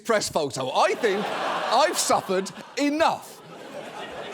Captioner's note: audience laughs